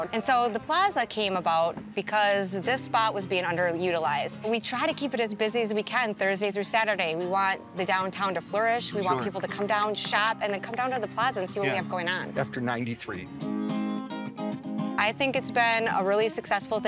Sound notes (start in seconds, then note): 12.4 people clapping; 13.7 country music